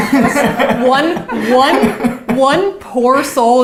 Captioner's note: both laughs